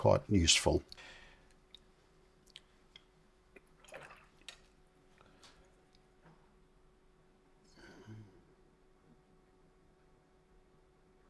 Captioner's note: silence